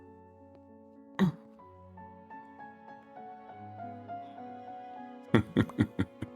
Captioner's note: laughs